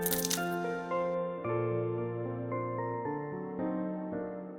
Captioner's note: cracking sound